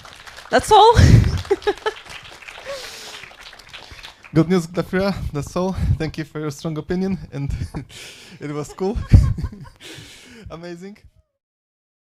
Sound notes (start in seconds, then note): 0.0 audience clapping; 0.9 laughs; 8.3 laughs